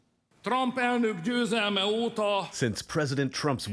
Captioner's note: speaking hungarian